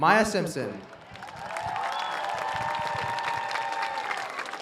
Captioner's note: audience cheers